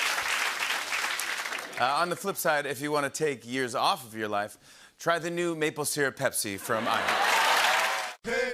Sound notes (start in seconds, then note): 6.7 cheers and applause